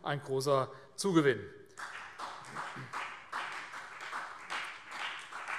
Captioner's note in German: Vereinzelter Beifall CDU